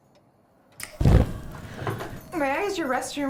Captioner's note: fire flickers; gasps